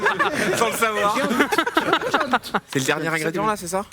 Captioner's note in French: rires